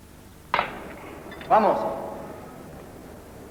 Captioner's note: speaks Spanish